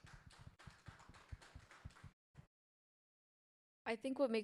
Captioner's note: audience applauds